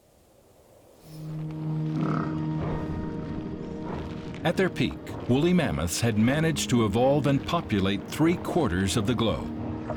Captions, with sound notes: [mammoths snort] At their peak, woolly mammoths had managed to evolve and populate three quarters of the globe.